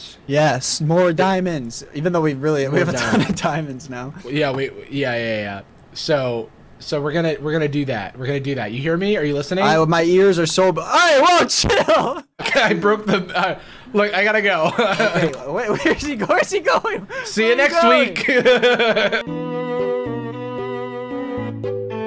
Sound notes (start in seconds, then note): 17.7 laughing; 18.8 mellow music